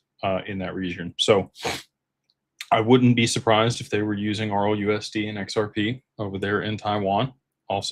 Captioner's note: snorts